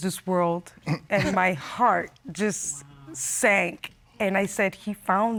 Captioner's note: chuckles